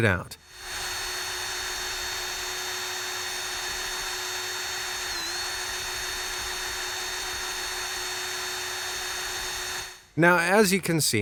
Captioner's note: drill trills